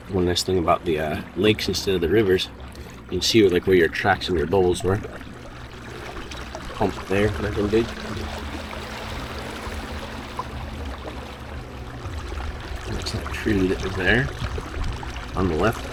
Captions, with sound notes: One nice thing about the lakes instead of the rivers, you can see like where your tracks and your bubbles were. Hump there. Big. (water lapping gently) (suspenseful music continues) That's that tree that was there on the left.